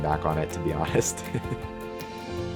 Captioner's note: laughs; gentle music continues